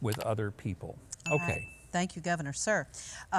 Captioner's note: notification ring